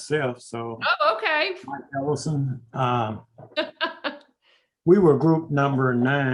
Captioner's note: laughs